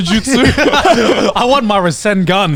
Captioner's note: group laughs